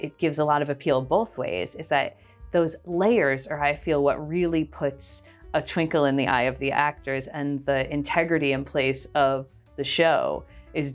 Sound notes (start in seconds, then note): none